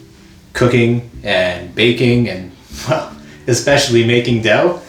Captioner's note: laughs